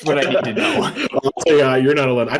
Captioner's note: laughter